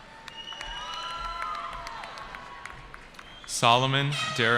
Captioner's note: cheering